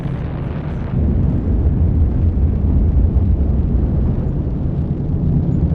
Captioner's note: rocket engines continue roaring